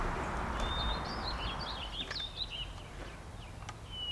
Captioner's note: birds chirping